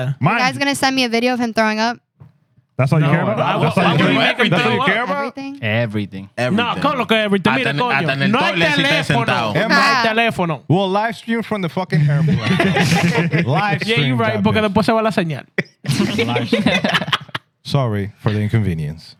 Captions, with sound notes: The guy's gonna send me a video of him throwing up. That's all you care about? I'm giving you everything bro. Everything. (Speaking In Foreign Language) We'll livestream from the fucking hair. (Laughing) You're right, we'll do the same. (Laughing) Sorry for the inconvenience.